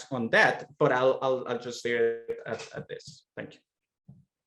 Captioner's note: audio/video skipping